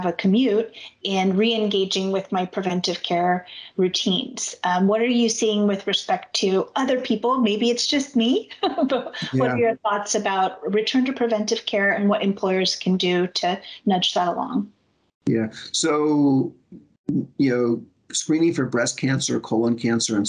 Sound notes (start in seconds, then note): 9.1 chuckles